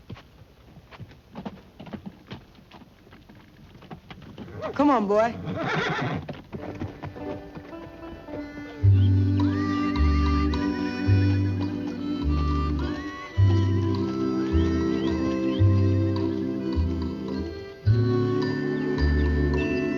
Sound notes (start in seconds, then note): 6.7 horse neighing